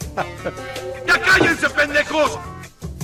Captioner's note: spanish anger noises